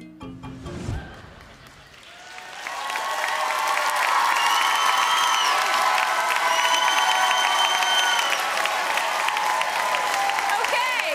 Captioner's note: applause